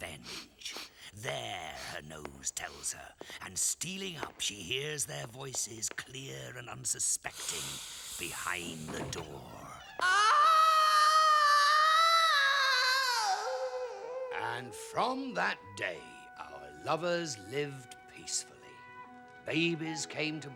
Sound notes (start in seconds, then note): 10.0 screaming